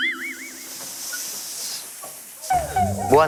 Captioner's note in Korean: 타이어 바람 빠지는 소리